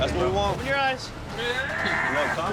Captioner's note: screaming